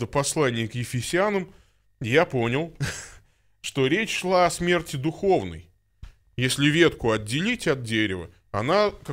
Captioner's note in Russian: посмеивается